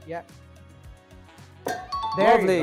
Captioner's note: can clinks